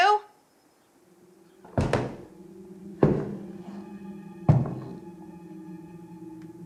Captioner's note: loud footsteps